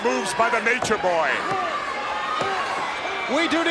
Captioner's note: countdown thudding